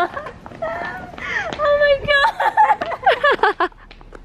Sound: laughing in the background

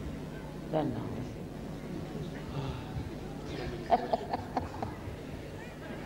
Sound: shri mataji laughs

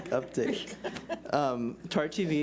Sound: laughs

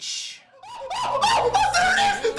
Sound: screams

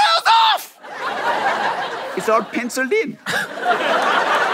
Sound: laughter

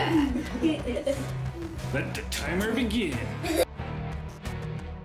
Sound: laughing

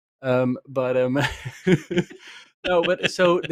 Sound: laughs

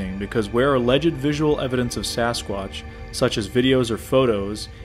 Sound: none

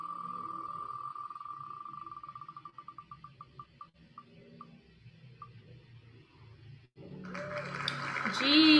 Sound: wheel spinning sound, applause sound

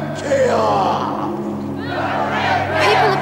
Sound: crowd

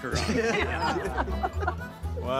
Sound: laughter

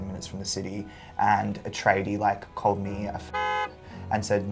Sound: car honks

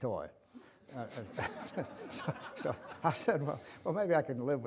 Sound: audience laughter

